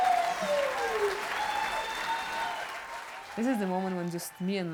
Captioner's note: applause; cheering